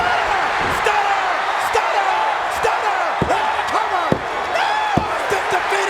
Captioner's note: body thudding; people chattering indistinctly